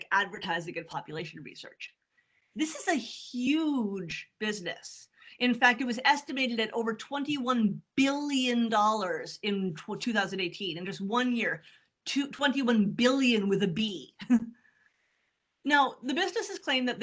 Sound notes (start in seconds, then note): 13.7 chuckles